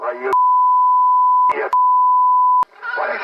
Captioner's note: beep